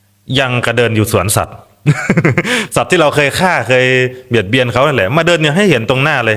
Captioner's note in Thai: เสียงหัวเราะ